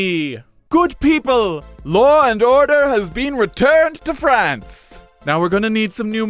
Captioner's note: pops champagne